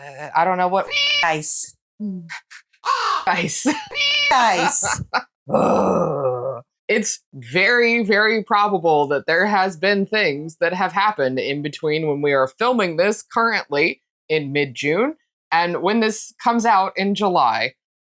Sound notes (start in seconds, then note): 0.8 meow; 2.8 caw; 3.8 meow